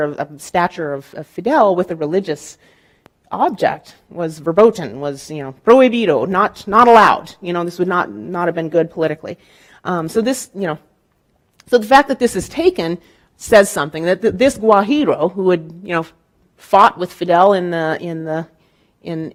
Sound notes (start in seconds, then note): 5.2 speaking in Spanish; 14.8 speaking in Spanish